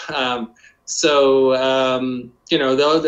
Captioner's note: laughs